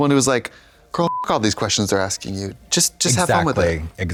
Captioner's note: beep